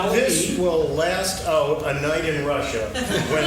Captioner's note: laughing